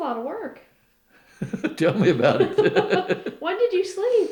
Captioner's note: laughter